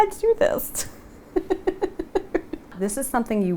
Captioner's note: chuckling